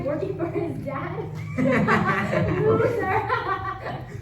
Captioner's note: laughing